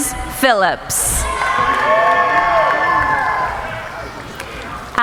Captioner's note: cheering